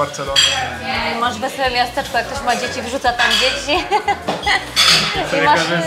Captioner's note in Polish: śmiech